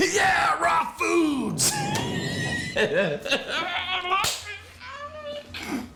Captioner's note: laughs